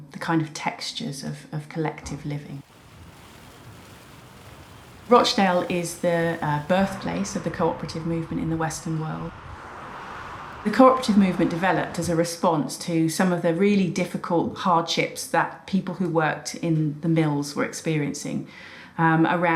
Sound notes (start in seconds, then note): 2.9 moving bus; 9.8 moving cars